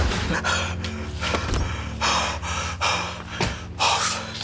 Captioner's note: Anderson huffing